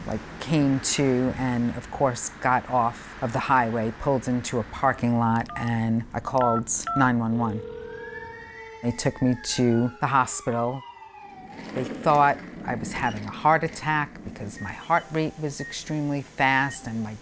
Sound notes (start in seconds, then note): 0.0 tires screeching; 6.4 phone beeping; 6.4 phone ringing; 7.8 siren wailing